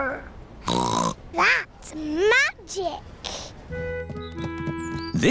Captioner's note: snorts